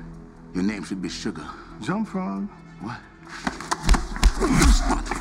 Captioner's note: speaks Mandarin